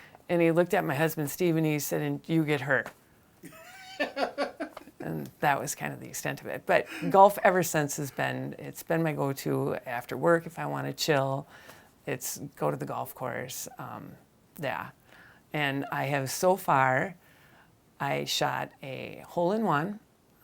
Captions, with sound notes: And he looked at my husband, Steve, and he said, "And do get hurt." (host laughing) And that was kind of the extent of it. But golf, ever since, has been-- It's been my go-to after work, if I wanna chill, go to the golf course. Of course, yeah. And I have so far, I shot a hole-in-one